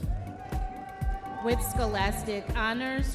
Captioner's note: audience members cheering